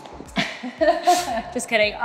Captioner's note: laughs